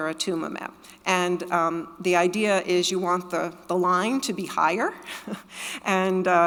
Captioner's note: chuckles